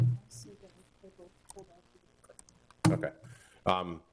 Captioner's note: faintly speaking